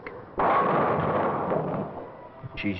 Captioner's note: bowling pins crash